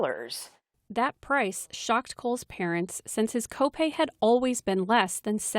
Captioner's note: voice-over